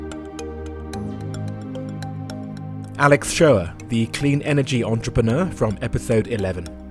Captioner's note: voiceover